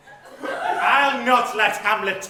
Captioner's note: audience laughter